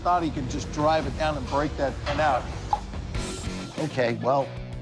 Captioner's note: pops mouth